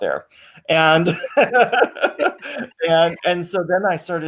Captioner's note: laughing